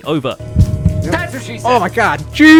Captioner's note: dungeon noises; horn